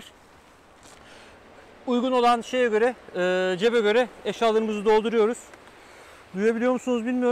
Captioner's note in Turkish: Rüzgar sesi